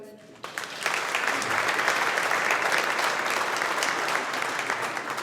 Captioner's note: audience applauding